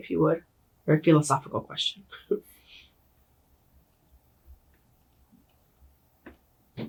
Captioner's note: chuckles slightly